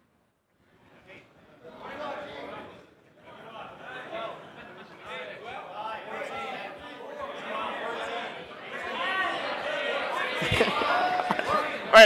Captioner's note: audience shouting answers